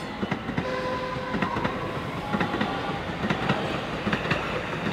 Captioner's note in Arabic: نفخ بوق القطار